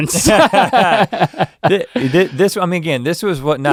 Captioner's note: Rhett and Link laughing